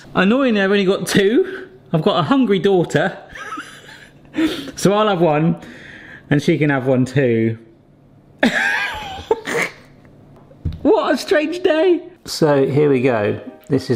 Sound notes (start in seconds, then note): 3.3 chuckles; 8.4 laughs